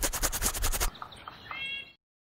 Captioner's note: aggressive scratching